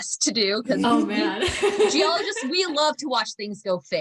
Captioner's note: laughter